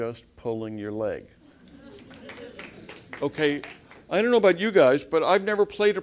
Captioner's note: applause